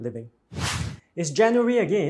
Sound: screen swooshes

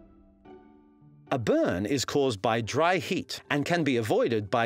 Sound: voiceover

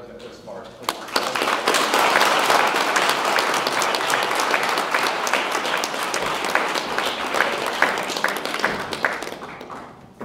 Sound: audience clapping

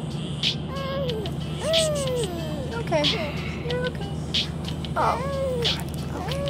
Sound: baby crying

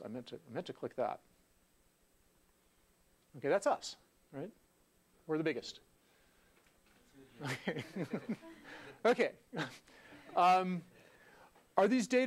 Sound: laugh

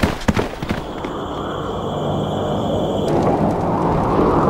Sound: wind blowing

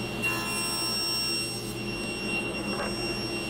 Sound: saw whirs

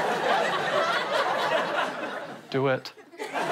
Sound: audience laughter

